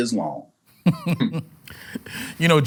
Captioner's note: laughs